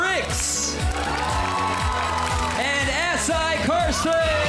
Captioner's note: clapping, cheering